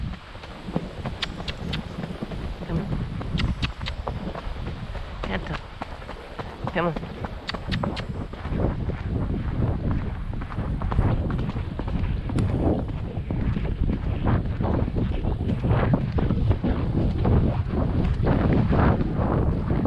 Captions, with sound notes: come on *clicks tongue* canter, come on